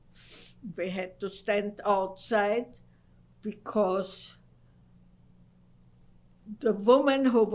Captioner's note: pauses for 3 seconds